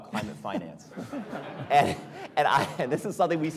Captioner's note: audience laughing